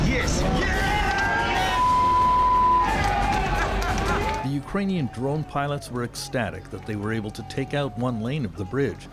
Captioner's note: cheers and applause